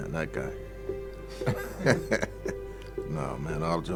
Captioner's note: laughs